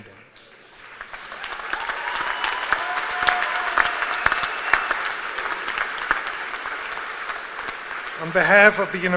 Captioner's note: applause